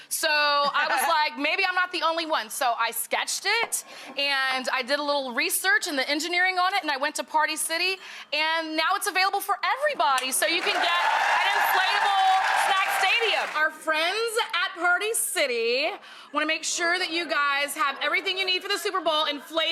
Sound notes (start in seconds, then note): 10.3 audience cheering